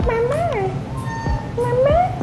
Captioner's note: Aila meows